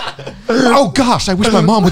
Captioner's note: all laugh